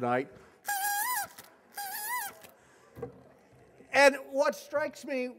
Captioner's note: horn sounding